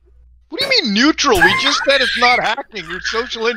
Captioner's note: laughs